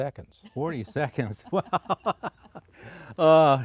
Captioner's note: laughs